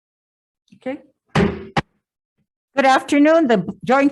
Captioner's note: gavel bangs